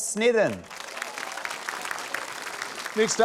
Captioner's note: cheering, applause